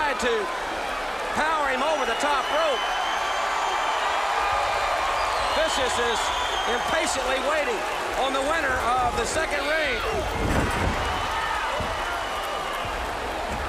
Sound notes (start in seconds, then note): 1.8 crowd cheering; 10.4 crowd cheering